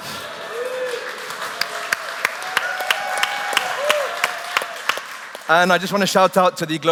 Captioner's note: applause